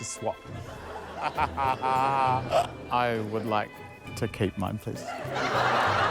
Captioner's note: laughter